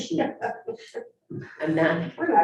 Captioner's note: woman laughing